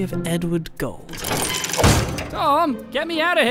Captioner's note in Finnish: Häkin oven paiskaus ääni